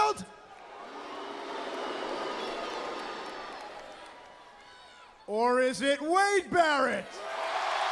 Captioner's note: crowd cheering; crowd cheering